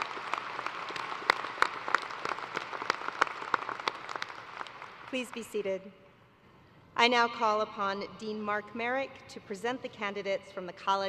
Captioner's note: applause